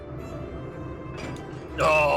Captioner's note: heavy clunk